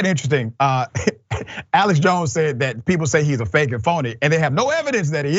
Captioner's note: laugh